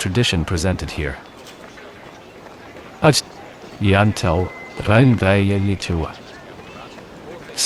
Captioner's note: speaking In Latin